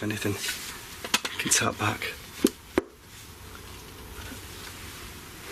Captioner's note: tapping